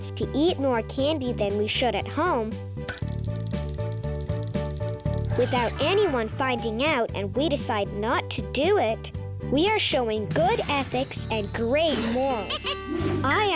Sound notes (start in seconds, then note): 3.2 candy thudding and clicking; 5.2 X screeching; 12.5 planet laughing and clinking